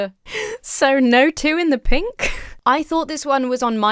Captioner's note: chuckles